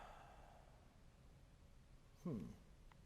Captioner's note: sigh